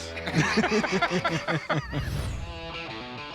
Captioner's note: laugh